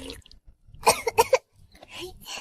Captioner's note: cough cough